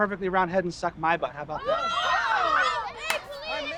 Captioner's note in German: Jungen ausrufen